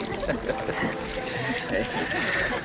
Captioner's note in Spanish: Risas